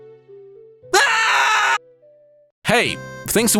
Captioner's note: unhinged screaming